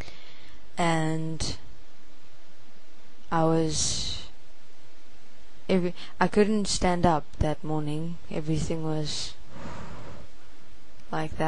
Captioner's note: swirling